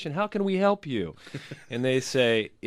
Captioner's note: laughs